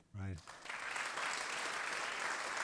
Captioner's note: applause